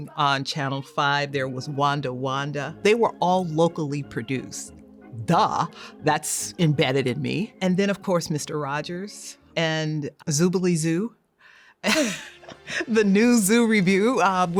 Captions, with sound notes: On channel five, there was "Wunda Wunda". They were all locally produced. Duh! That's embedded in me. And then, of course, Mr. Rogers, and "Zoobilee Zoo". (chuckles) "The New Zoo Review".